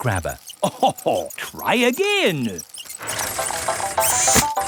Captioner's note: chuckles